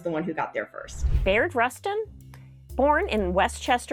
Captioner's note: computer whooshing